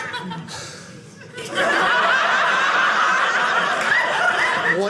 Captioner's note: audience laughing